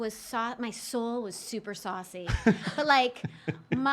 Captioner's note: laughing